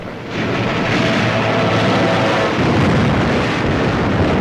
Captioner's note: sound of guns and explosions